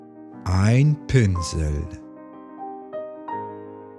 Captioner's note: german